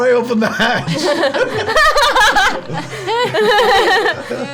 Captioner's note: laughter